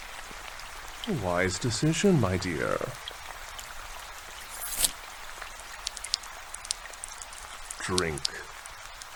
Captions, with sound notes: A wise decision, my dear. (sound of blade slicing through skin, and blood dripping) Drink.